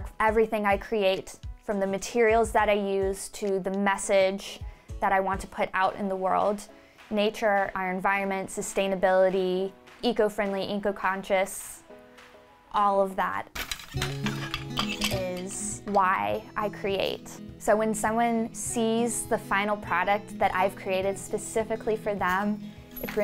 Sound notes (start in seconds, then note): 13.6 shuttle rattles; 13.9 machine scrapes